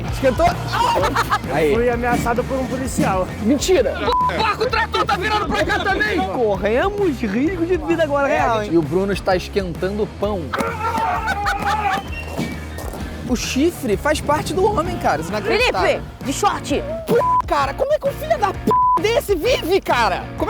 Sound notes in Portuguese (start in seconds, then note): 10.5 gritando